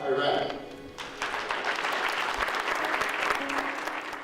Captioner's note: clapping